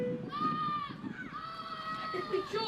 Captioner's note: screams